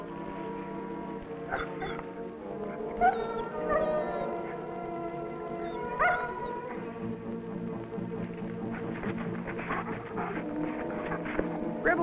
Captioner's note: Rebel whining